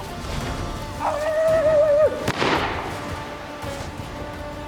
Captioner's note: yelling, gunshot